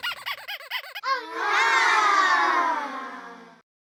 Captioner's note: children wowing